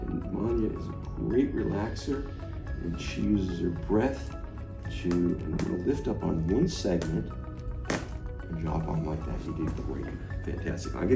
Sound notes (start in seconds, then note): 7.8 table thudding